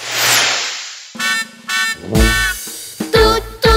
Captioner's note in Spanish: Sonido de bocina